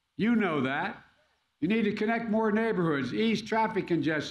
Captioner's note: none